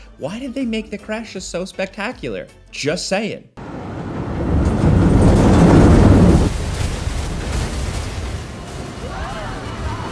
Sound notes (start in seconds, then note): 3.6 rollercoaster roaring